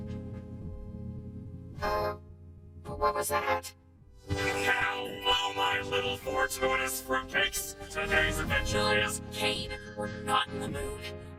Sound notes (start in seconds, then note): 4.2 swoosh!